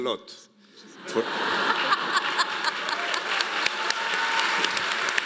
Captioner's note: audience laughing